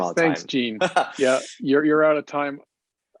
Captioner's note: chuckles